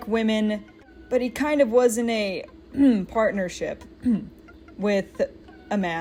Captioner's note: ahem